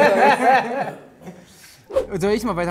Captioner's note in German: Lachen